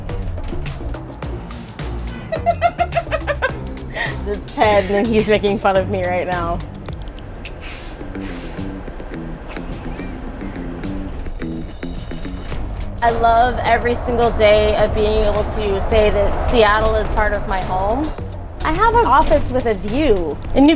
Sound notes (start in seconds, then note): 2.2 giggles; 7.7 upbeat music